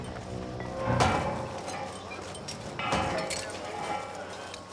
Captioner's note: metal thudding